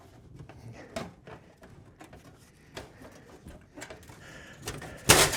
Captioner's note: veins scratching